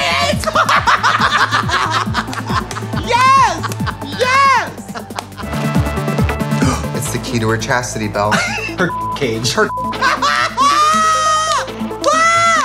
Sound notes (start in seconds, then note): 0.2 laughing; 6.5 inhales; 9.9 laughing